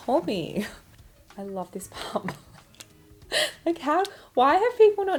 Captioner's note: laughs